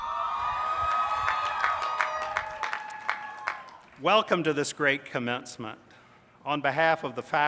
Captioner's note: cheers